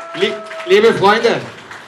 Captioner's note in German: Applaus